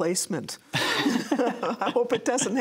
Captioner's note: laughter